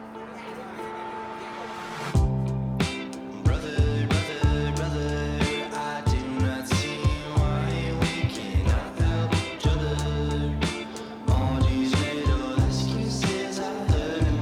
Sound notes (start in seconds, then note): 0.0 people chattering